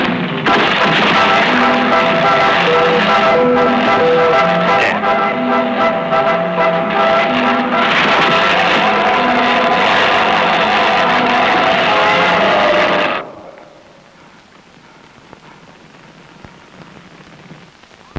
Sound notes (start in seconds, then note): 0.8 dramatic music; 0.8 electric fizzling; 6.0 dramatic music